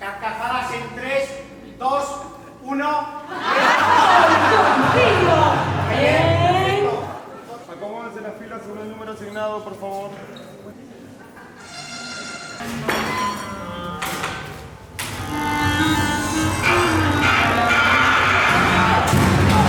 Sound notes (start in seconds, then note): 3.3 audience laughter; 11.2 notification sounds; 12.3 metallic sounds